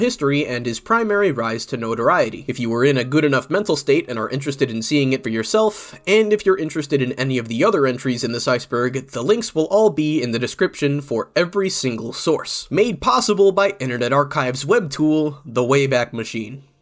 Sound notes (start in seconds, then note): none